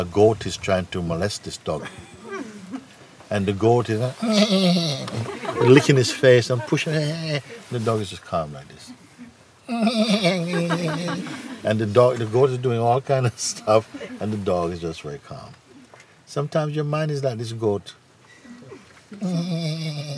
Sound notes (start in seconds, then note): 4.2 makes bleating sound; 7.8 bleats; 19.1 makes bleating sound